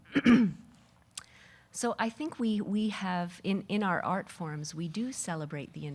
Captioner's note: clearing throat